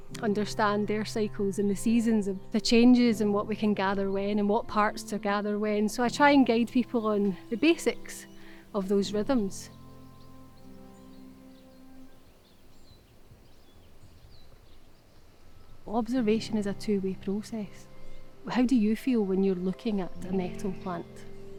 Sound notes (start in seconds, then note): 9.7 birds chirping